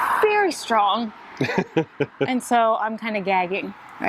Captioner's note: laughs